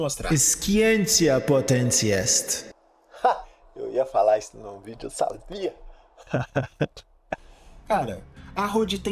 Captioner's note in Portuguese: riso